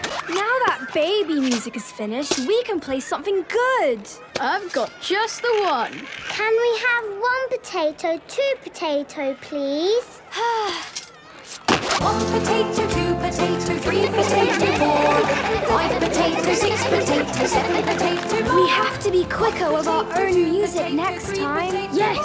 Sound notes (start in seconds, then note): 10.4 Belinda sighing; 13.8 laughter